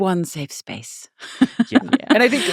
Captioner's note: laughing